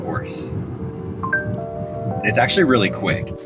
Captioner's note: screen chimes